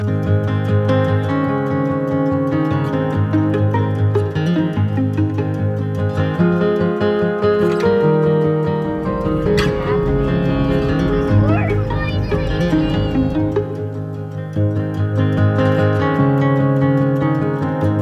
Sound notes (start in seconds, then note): 0.3 light happy music; 10.6 chatters